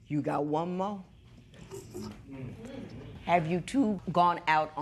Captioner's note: spectators murmur